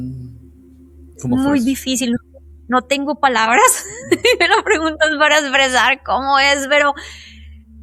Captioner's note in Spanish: risas